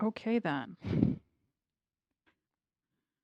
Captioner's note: laughs